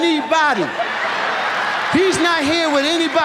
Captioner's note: audience laughs